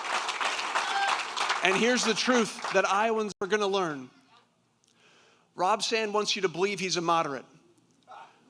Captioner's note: applause